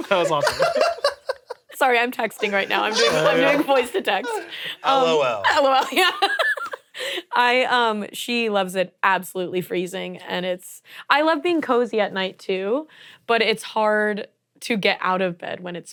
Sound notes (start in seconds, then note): 7.3 laughs